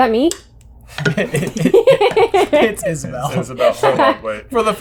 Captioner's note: laughter